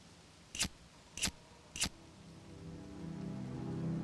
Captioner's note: lighter clicking